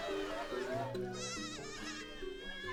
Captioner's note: goats bleating